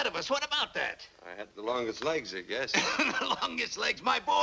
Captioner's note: laughs